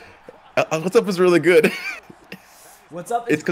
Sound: laugh

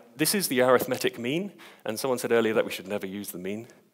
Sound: none

